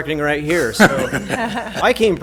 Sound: laughter

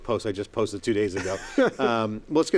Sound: laughs

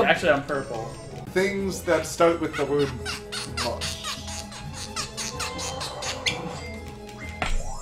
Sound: slowly uncorks a liquor bottle, causing the cork to squeak into the mic

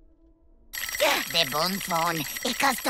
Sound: ringing; gasping

